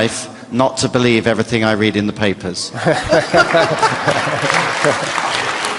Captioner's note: applause